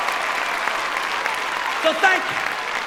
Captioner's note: cheering